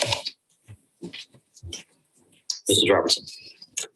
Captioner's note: video squelches